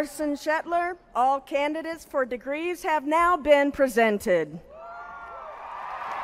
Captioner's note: applause